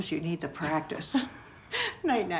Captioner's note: laughing